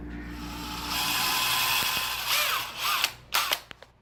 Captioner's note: drill whirs